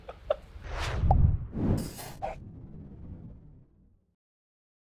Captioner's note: pop and whooshing